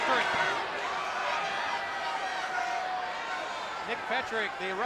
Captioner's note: spectators cheering